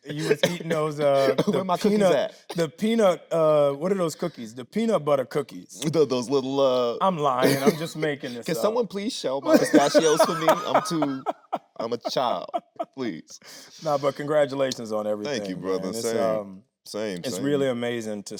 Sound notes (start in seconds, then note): 0.0 Tyler laughing; 9.4 Anthony laughing